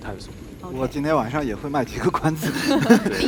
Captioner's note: laughs